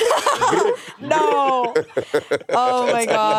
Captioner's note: all laughing